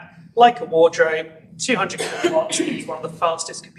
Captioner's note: cough obscures voice